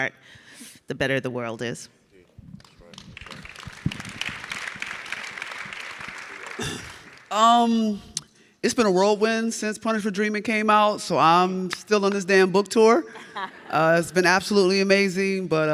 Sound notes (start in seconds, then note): 2.4 audience clapping; 13.2 audience laughs